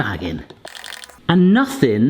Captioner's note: hopper rapidly stirring